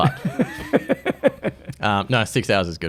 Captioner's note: laughs